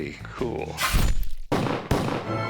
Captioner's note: gun shooting